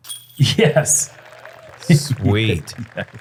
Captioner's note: applause